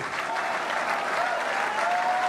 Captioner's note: crowd cheering